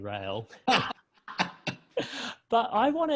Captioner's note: laughs